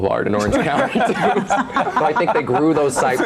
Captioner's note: all laughing